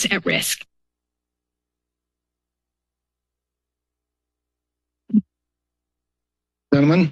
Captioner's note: silence